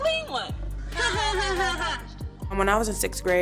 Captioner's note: laughing